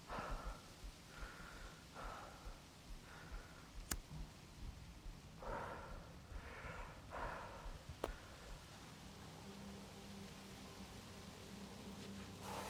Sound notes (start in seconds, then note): 3.8 lighter clicking; 5.4 Arawn exhaling; 8.9 soft dramatic music; 12.4 Arawn exhaling